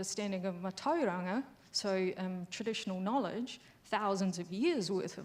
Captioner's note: speaking foreign language